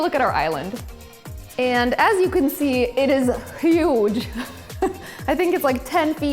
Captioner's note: laughs